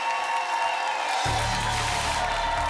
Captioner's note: applause and cheering cont; static